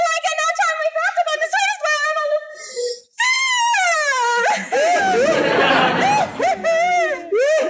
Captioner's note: weeping